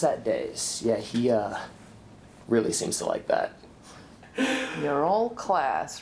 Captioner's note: chuckles